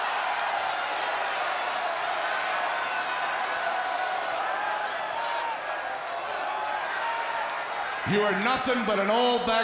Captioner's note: crowd chatter